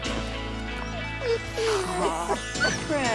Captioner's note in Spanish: perro lloriqueando